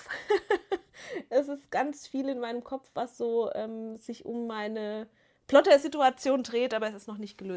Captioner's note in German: gelächter